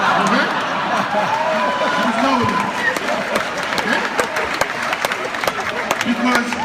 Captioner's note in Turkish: Kahkahalar ve alkışlar